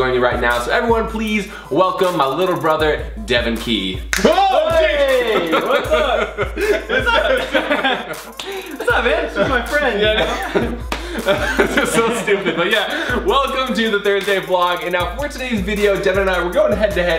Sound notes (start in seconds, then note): 4.2 Collin yells; 4.8 laughs loudly; 6.5 Collins laughs loudly; 10.5 Collins laughs loudly